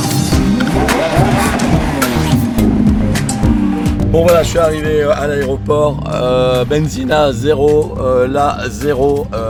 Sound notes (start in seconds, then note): 1.9 engine roaring